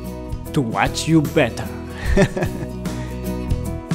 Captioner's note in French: rires